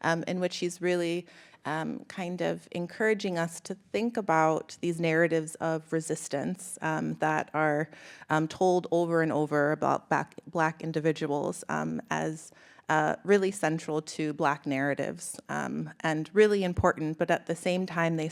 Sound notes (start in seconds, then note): none